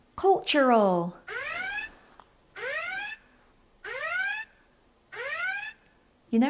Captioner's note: sirens